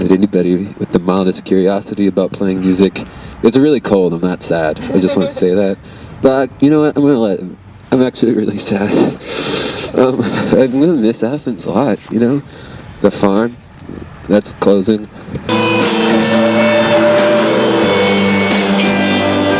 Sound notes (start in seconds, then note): 8.9 sighs; 15.5 rock music